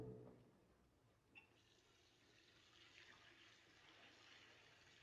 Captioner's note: water Running